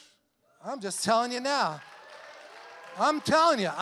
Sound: congregation cheers and applauds

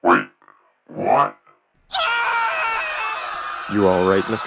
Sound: screams

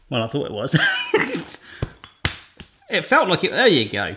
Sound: laughs

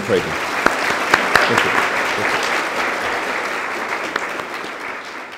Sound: applause

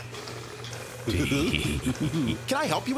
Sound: both chuckling

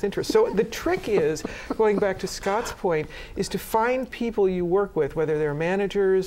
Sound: laughter

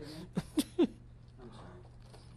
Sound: laughs

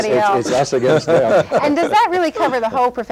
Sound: laughter

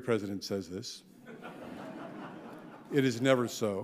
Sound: audience laughing

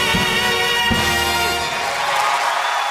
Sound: cheering and applause

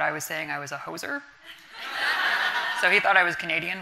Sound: audience laughing

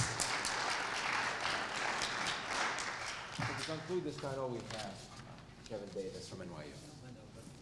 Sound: applause

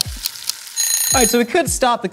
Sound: frying sound; ticking sound; ringing sound

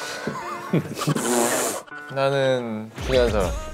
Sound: trying to hold back their laughter

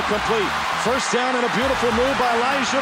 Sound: crowd cheering

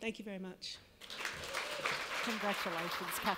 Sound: applause

